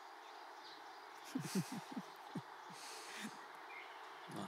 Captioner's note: Laughing